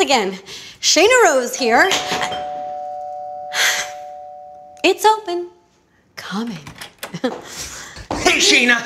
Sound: door bell, knocking

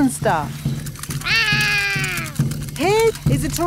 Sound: roaring

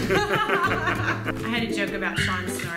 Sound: laughter

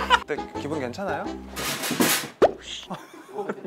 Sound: slam

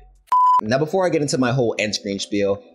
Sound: beep

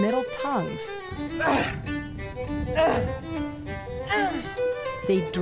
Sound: grunting

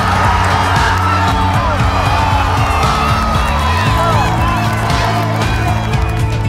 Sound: whistle blows; crowd cheering

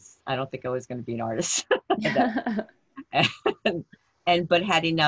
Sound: laughter

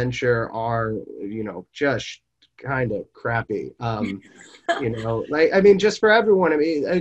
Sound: laughs

